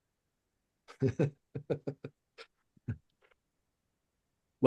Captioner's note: chuckles